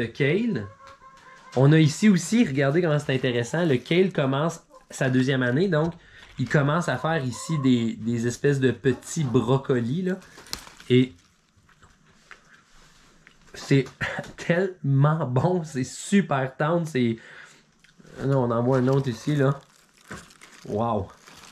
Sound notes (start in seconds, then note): 11.1 chewing